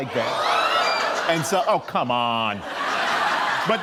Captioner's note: crowd screams; laughter